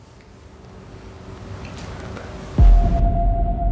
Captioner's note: voice whispers; tense music